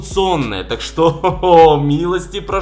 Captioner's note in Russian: Смеется